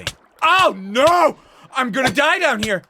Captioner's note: damage noises